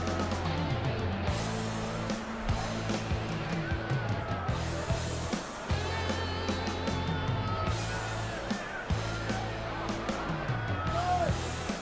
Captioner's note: crowd chatter; crowd cheering